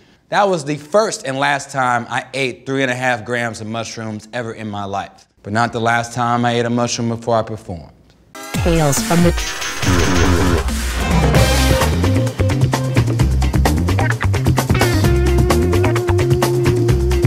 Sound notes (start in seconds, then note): 8.9 robotic Voice; 11.4 upbeat music